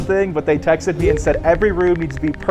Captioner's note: text clicking